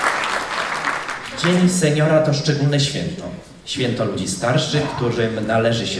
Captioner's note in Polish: oklaski